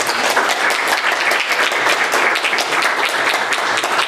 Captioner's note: applause